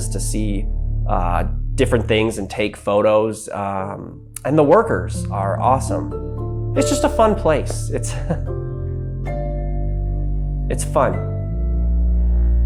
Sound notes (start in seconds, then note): 8.0 chuckles